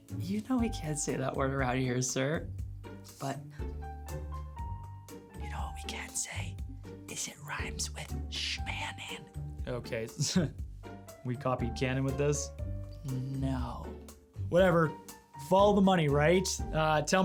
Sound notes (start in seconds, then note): 5.5 whispers